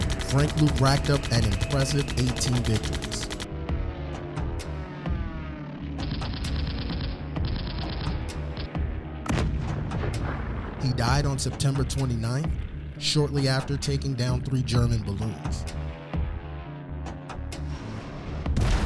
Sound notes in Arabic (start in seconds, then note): 0.0 قصف مدفعي; 4.3 الطائرات تحلق; 6.2 قصف مدفعي; 9.2 تنفجر القنبلة; 18.5 انفجار قنبلة